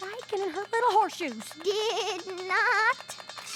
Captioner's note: shakily